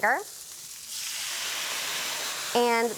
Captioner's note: sizzles